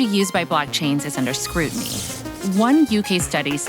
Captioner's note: electricity crackling